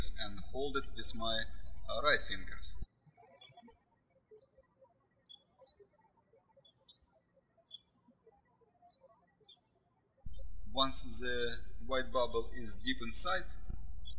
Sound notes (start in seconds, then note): 3.2 birds chirping